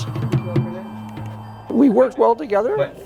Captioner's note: fingers drumming